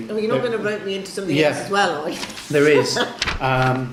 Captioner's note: laughs